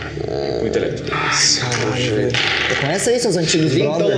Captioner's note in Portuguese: resmunga